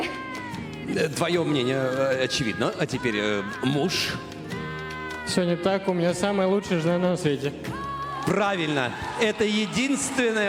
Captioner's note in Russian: крик